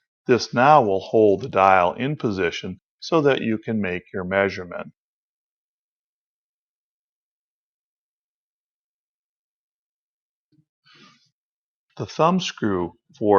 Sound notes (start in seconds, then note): 5.8 silence